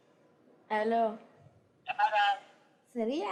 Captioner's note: non-english speech